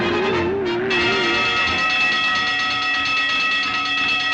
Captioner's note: alarm ringing